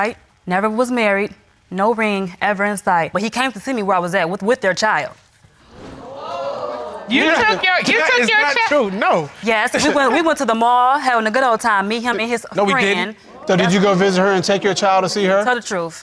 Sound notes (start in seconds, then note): 5.8 audience exclaims